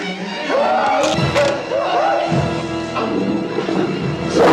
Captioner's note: screams; snarling